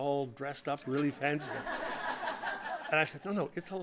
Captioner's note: audience laughing